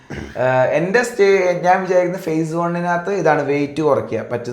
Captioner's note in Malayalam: തൊണ്ട ശരിയാക്കുന്നു